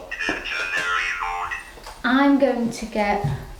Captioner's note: electronic sounding voice